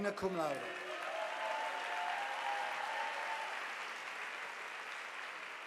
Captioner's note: audience applauding